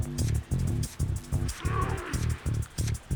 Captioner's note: straining